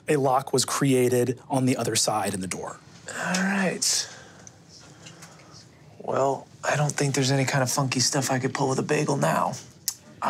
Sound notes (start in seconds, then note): none